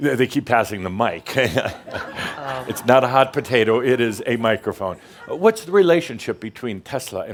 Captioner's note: laughter